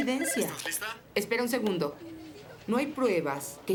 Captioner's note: phone ringing